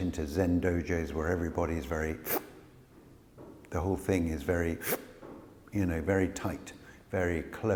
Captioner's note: sharp in-breath